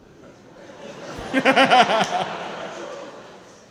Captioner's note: laughing